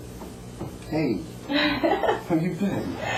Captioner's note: laugh